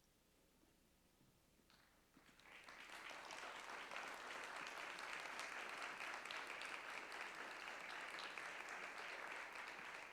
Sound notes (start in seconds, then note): 2.4 audience applauds